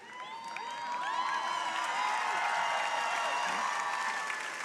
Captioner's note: crowd cheering